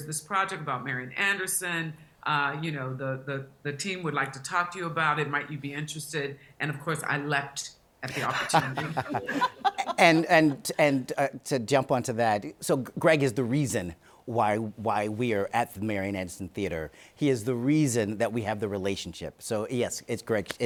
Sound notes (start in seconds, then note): 8.0 laughing